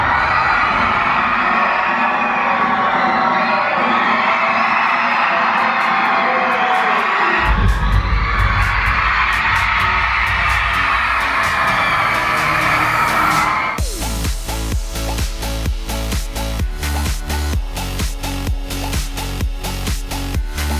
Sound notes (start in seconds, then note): 0.3 audience cheering; 7.1 high energy pop music; 10.8 audience cheering; 14.6 high energy pop music